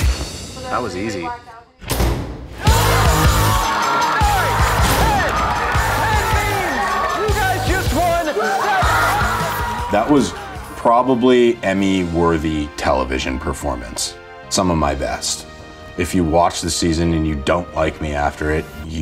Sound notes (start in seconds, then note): 2.8 all cheering; 2.8 triumphant music